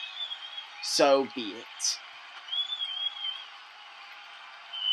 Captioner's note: audience cheering